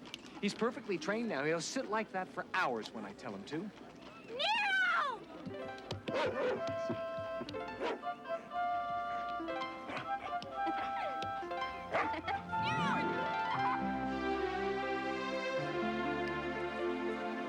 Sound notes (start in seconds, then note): 6.0 Nero barking; 7.0 pleasant music; 11.4 Caddie giggling; 14.4 pleasant music